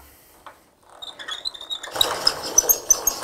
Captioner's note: squeak